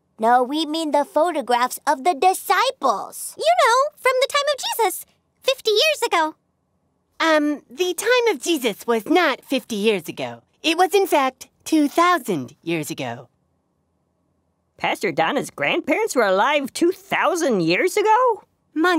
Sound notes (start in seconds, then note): none